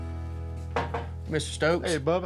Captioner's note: knocks on door frame